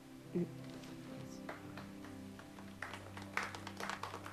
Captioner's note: applause